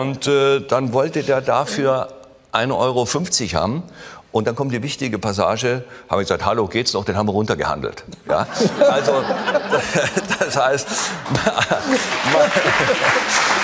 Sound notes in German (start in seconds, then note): 9.8 Gelächter; 11.1 Applaus